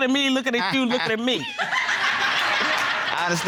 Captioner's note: all laughing